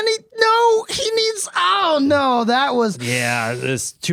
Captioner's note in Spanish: respira fuerte